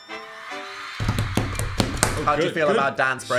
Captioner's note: smooth upbeat music; crowd cheering; shoes tapping